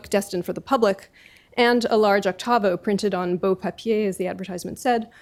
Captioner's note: french